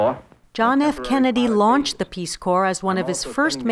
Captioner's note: voiceover